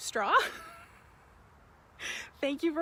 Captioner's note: laughs